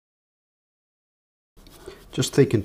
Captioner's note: silence